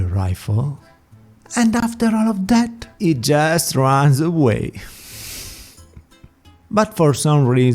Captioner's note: sigh